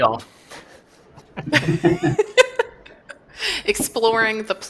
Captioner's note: laughter